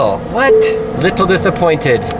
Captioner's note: bell dings